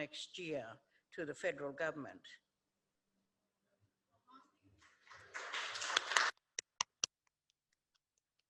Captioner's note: applause